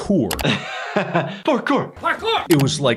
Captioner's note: laughs